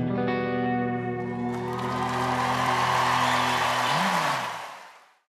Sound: audience cheers

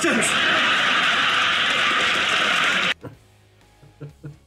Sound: crowd laughs and cheers

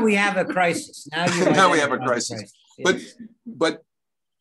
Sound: chuckles

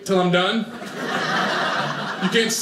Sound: audience laughing

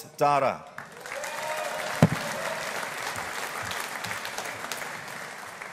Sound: audience applauding

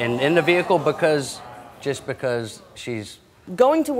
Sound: audience oohing

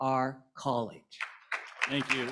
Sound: applause

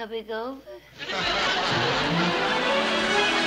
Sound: laughter

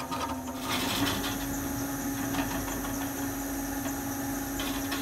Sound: machine whirring

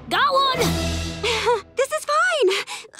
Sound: chuckles

